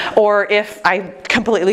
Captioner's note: none